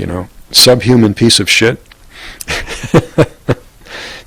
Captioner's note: laughter